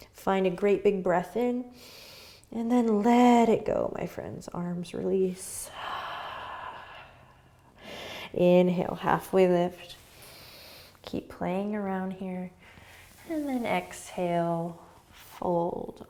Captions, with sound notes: Find a great big breath in. And then let it go, my friends. Arms release. (exhaling) Inhale, halfway lift. Keep playing around here. And then exhale, fold.